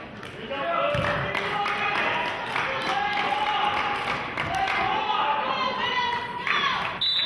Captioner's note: clapping